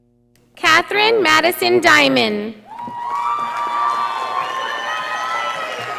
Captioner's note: audience applauding